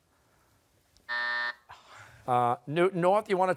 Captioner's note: buzzer